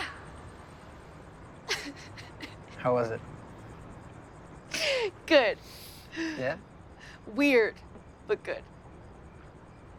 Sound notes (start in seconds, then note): 1.6 chuckles